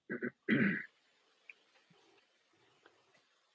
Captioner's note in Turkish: boğazını temizler